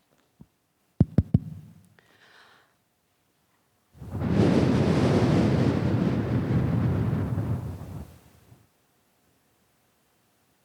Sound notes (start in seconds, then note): 1.0 mic tapping; 4.0 blowing into mic